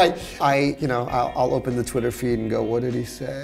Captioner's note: laughs